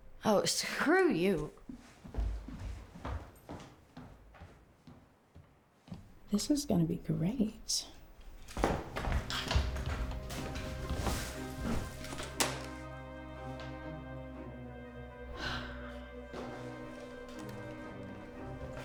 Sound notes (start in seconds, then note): 9.6 somber music; 15.2 Claire sighs